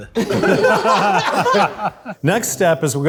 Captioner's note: group laughs